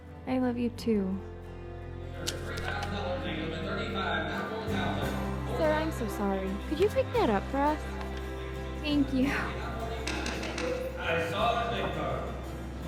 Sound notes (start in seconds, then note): 10.0 gavel banging